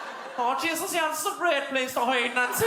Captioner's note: Cork accent